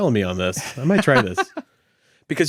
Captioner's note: laughing